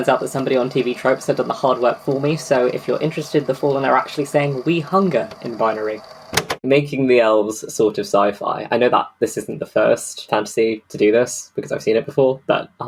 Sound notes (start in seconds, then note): 6.3 tape recorder clicks off